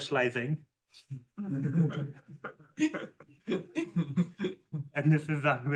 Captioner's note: laughter